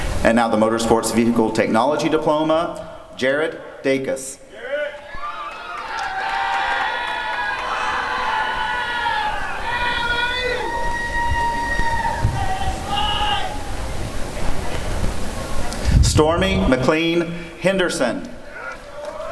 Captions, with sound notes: And now the Motor Sports Vehicle Technology Diploma— Jarrett Dacus [applause and cheering] Stormy McLean Henderson